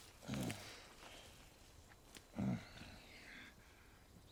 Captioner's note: grass crunching; guard groaning